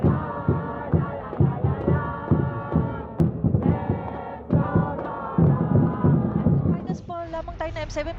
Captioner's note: team fans chanting in the background